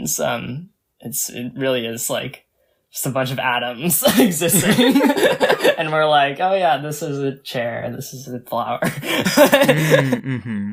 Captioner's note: both laugh; laughs